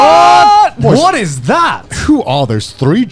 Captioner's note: all exclaiming